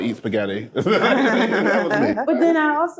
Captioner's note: group laughing